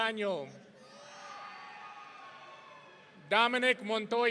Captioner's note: audience cheering